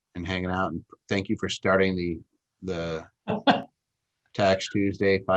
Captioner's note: laughs